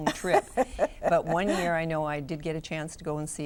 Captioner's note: laughs